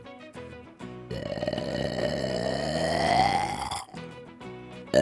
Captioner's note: burp; burp!